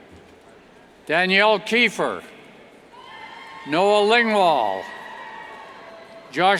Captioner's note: cheers